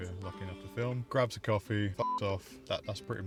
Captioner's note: beep